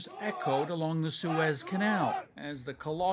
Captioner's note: chanting